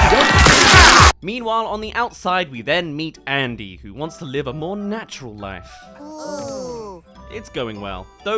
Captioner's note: ooh